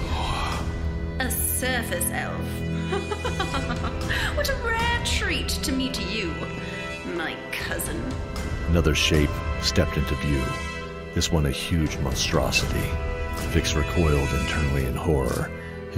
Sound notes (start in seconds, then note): 2.9 chuckle